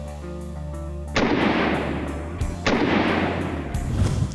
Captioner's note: gun blasting